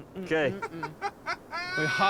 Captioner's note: laughing